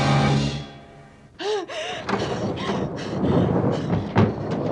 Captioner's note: gasping - panting; thunder continues rumbling